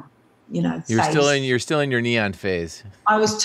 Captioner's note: laughing